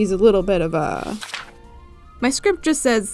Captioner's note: page Turning Sound